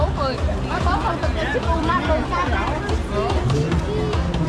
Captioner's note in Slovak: smiech